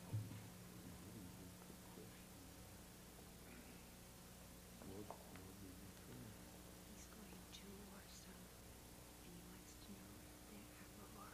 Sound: whispering

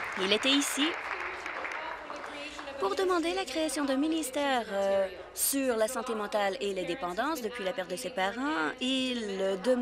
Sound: applause

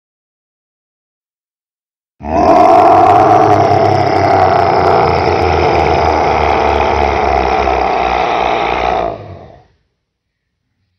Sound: sound of roar

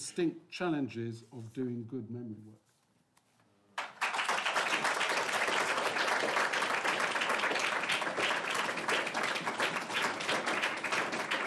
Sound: applause

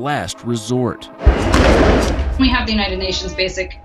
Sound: explosion

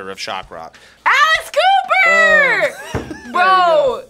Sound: laughs

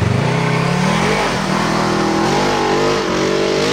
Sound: motor roaring

